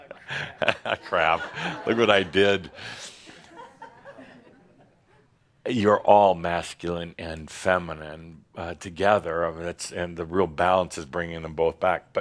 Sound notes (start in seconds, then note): 0.0 chuckles; 3.1 more chuckles